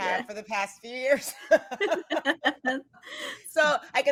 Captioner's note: actors laughing